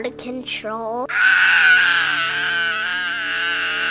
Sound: screaming

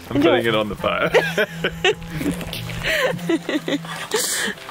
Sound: both laughing

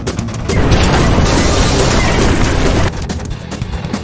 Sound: intense rock music at double speed; loud crash; intense rock music at double speed

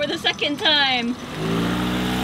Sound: motor running

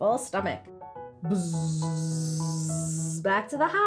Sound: buzzing

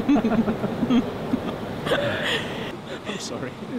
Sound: both laugh

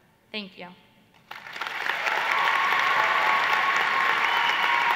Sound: applause

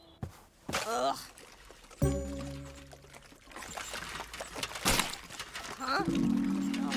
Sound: concerning soup noises

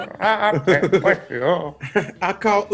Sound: laugh

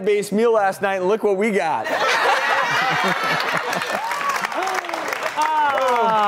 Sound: audience laughs and applauds

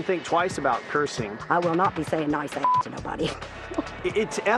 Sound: laughs

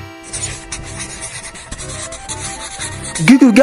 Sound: carnival music; coloring scratching

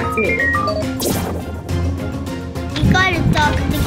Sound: electrical whoosh

